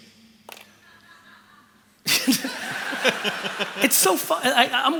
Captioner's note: laughter